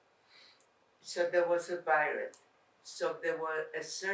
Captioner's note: non-english